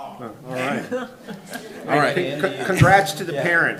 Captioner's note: chuckling